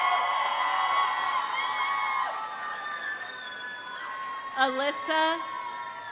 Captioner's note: audience applauding; audience cheering